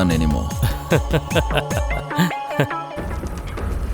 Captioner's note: laughs